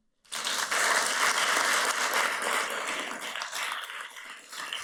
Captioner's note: everybody applauds